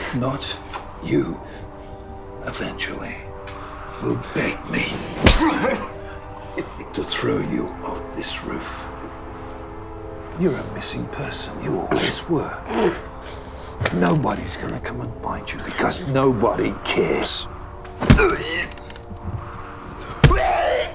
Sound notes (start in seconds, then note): 5.0 smacking; 18.0 fleshy thudding